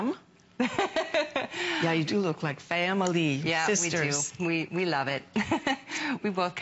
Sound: laughter

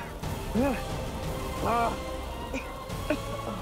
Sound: grunting

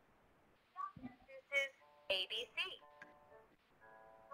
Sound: voiceover

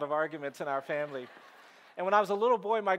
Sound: audience laughing

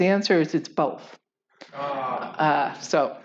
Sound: aagh!

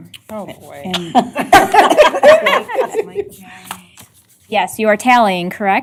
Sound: laughter

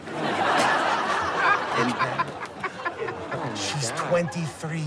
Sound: laughter

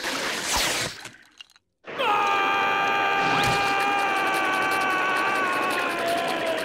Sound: screaming

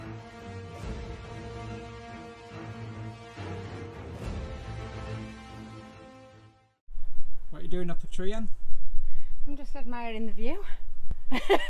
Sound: laughing

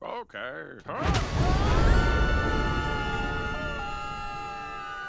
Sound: both screaming

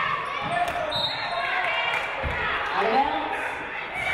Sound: referee blows whistle

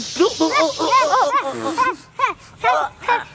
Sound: yelps

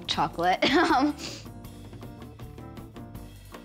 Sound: laughs

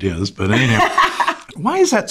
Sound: laughs

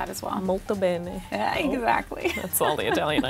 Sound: speaking in foreign language

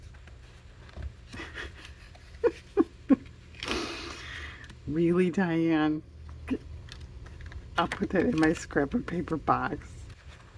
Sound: laughs

